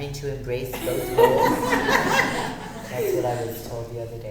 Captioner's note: audience laughing